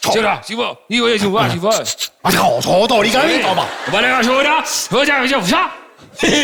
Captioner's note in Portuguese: conversa em japonês; risos